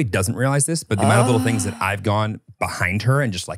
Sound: sighs

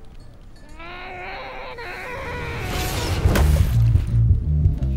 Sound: Jack growling

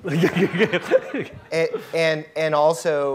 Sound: laughing

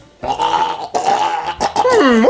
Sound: choking

